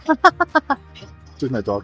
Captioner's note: laughing